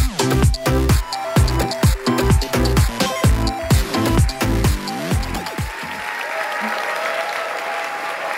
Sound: applause

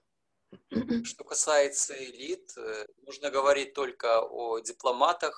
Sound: speaking foreign language

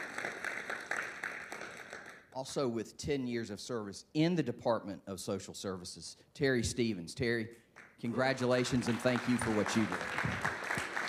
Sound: applause

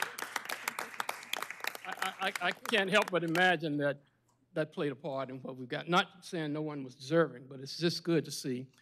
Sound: applause

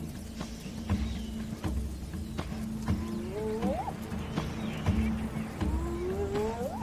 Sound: suspenseful music; hyena whines

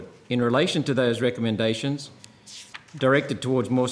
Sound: changing page

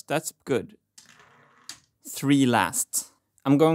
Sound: marble rolling

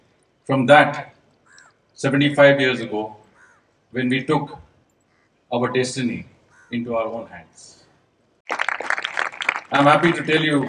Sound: applause

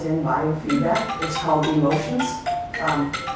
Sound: phone ringing

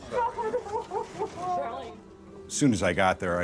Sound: woman wailing

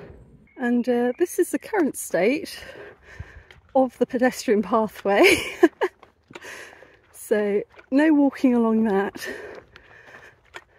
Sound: laughing

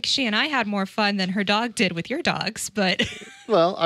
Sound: laughs

